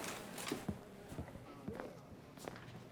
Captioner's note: footsteps